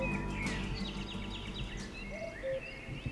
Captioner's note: an owl calls